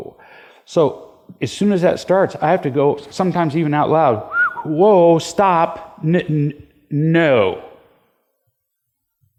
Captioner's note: whistles